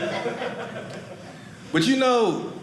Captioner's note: audience laughing